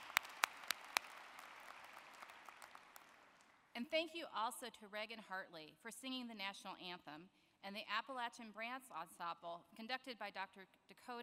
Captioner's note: applause